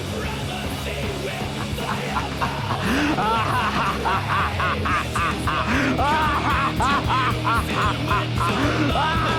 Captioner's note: evil Laughter; evil Laughter Continues